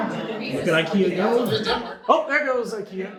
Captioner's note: audience chatter